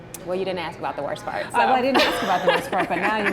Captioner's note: laughs